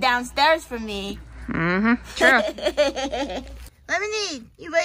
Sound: laughs

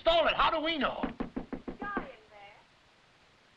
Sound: knocking

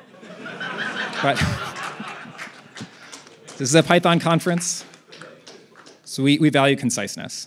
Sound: laughter

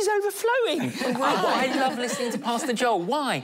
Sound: laughing

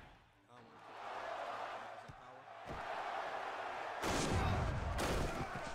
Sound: cheering and crashing

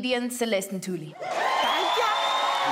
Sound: crowd cheering

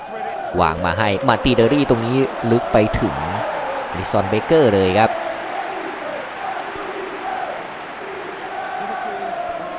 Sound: applause

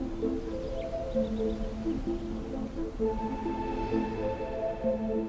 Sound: birds chirping

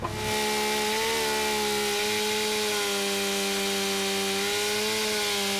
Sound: chainsaw engine roaring

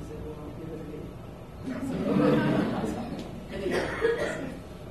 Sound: laughter

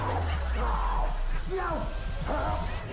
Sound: audience laughter; distant throat clearing; audience laughter

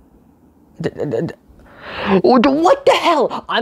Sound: sutters and breaths in

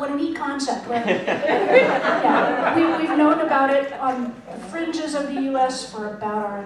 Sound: laughter

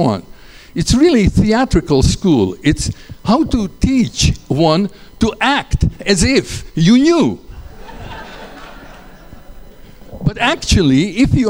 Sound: laughter

